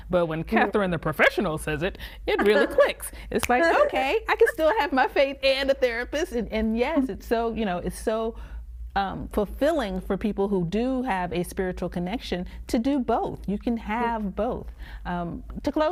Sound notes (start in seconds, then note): 2.3 laughing; 3.4 finger snapping